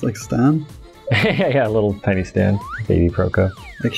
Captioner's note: laughter